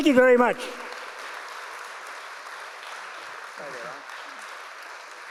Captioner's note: audience applauds